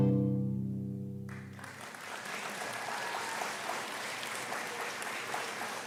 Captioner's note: lively music continues; audience clapping